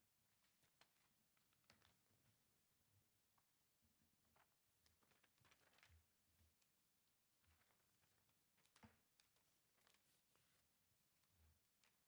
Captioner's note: speaking away from mic